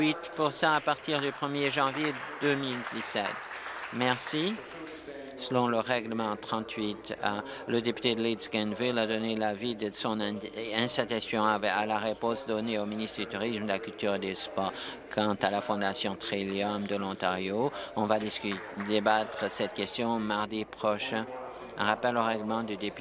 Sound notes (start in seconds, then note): 4.4 applause